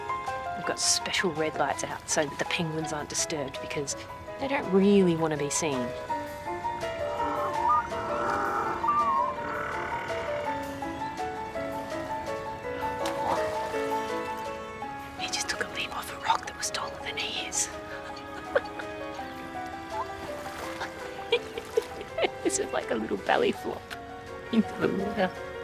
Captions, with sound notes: We've got special red lights out so that the penguins aren't disturbed, because they don't really want to be seen. (PENGUINS TRILL) He just took a leap off a rock that was taller than he is. (LAUGHS) It's just like a little belly flop into the water.